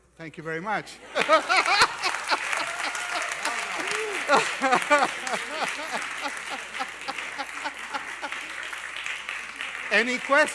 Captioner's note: applause and Laughter